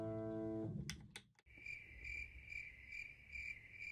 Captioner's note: crickets chirp